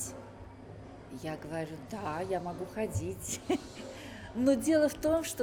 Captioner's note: laughs